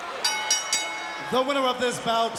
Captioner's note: audience cheers; bell rings